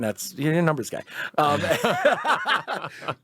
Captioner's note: laughs